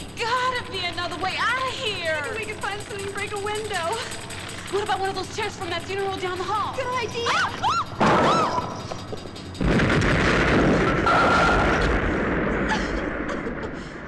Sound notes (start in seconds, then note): 7.2 girls screaming; 8.1 stone crashing; 9.6 loud exploding